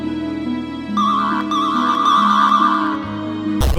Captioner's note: damages spamming sound